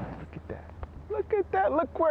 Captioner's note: none